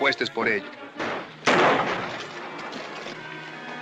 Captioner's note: gunshot